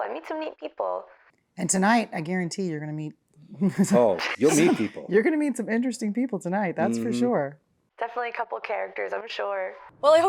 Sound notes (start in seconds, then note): 4.2 laughs